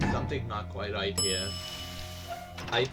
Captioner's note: ding!